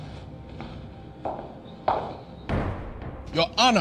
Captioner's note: footsteps